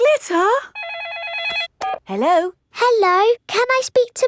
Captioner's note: phone rings